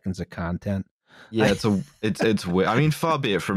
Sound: laughs

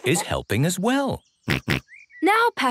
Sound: snorts

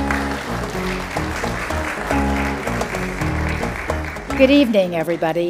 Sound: audience applauding; upbeat music

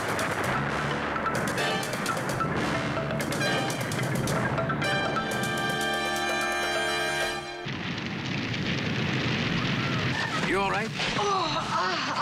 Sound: explosion

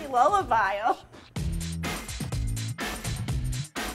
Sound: laughs

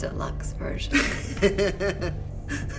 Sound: Standard laughs

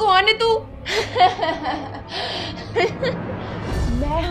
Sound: laughing

